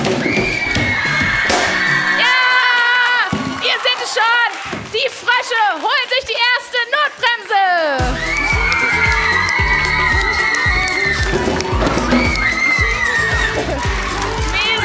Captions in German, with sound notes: (Jubel) Ja, ihr seht es schon! Die Frösche holen sich die erste Notbremse. (Jubel) (Fröhliche Musik)